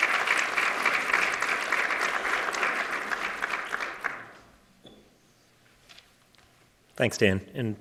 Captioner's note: applause